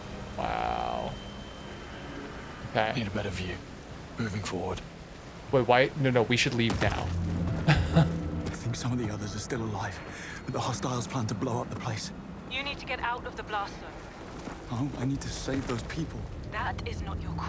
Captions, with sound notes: Wow. Okay. Wait, why? No, no. We should leave now. [laughs]